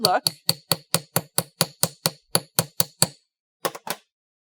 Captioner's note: light hammering